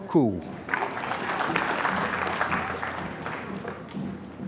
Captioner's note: applause